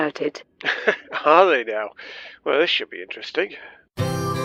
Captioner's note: laughing; music